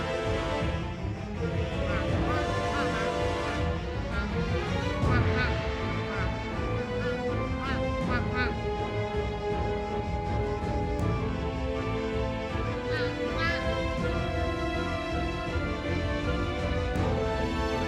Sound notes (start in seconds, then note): 7.8 dramatic music playing; 10.5 Anat army quacking loudly upon arrival